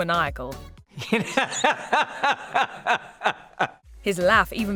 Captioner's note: laughing